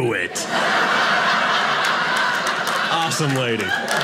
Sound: audience laughing

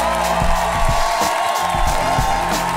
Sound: cheering and applause

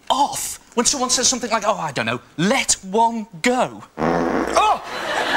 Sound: farts

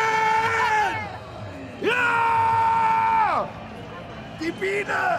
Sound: screams

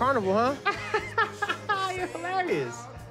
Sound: laughs

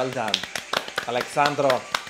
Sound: clapping

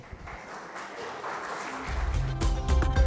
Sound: applause; upbeat music

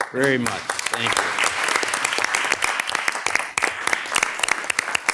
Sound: audience applauding

